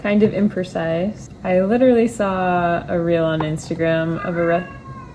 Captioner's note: meow